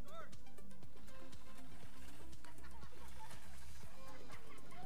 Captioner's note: laughing